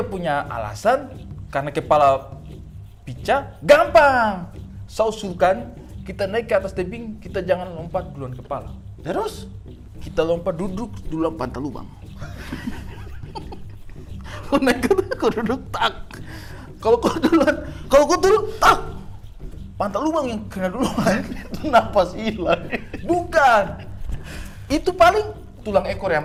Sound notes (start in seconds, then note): 12.0 chuckling